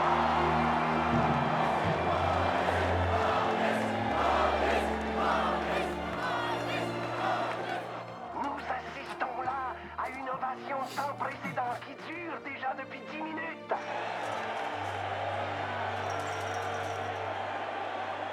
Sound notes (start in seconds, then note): 3.7 crowd; 7.8 radio